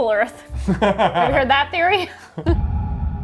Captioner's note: laughing; ominous music